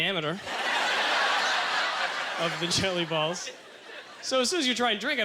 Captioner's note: audience laughter